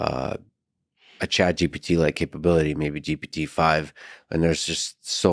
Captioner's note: none